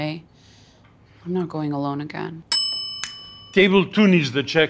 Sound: bell ringing

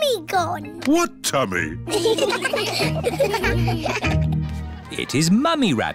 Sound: laughter

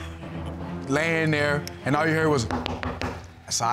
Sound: knocks on wood

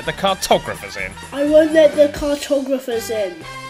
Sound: child's voice

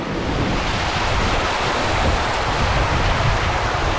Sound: water gushing

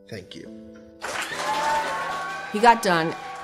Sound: group cheering

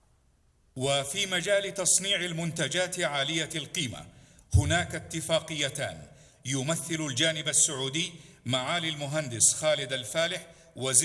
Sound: Arabic

